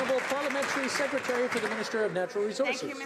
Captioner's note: some Applause